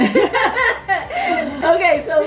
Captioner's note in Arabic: يضحك